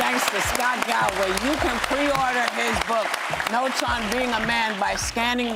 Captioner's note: applause